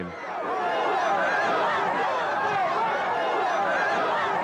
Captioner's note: screams & shouts